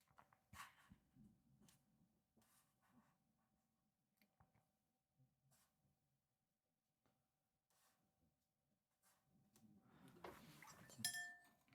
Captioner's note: silence